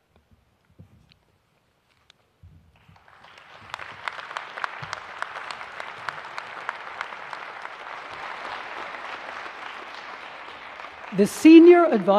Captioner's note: applause